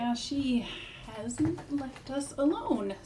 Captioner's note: none